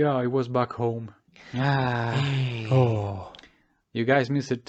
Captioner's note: sigh